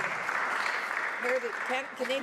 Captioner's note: some Applause